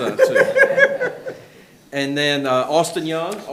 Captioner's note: board member laughing